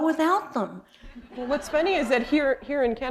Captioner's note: laughter